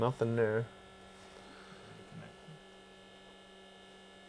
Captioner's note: machine hums